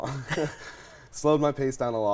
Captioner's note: both chuckle